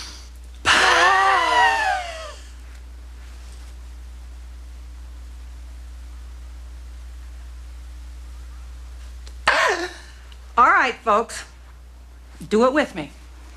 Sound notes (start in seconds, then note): 0.0 breathing; 0.6 screaming; 2.3 breathing; 9.4 sneezes